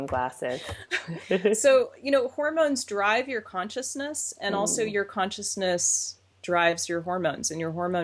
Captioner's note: laughs